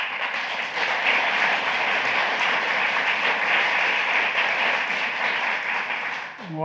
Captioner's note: applause